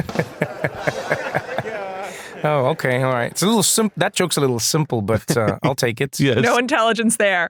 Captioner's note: laugh